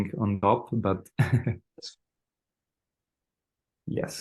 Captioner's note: laughs